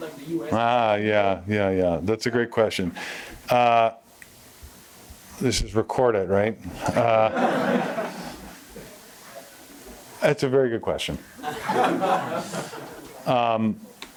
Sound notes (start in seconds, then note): 6.8 laughter; 11.3 laughter